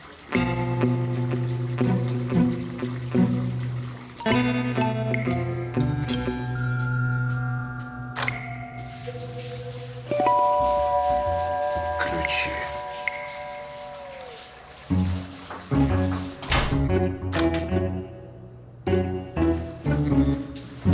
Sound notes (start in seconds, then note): 0.3 background music; 7.8 lock clicks; 15.4 knocks on door